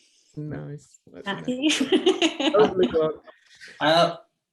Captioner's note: laughs